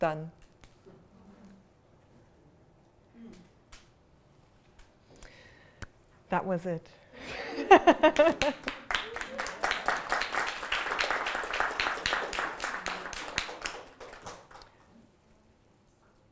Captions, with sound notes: Done. That was it. (laughter) (applause)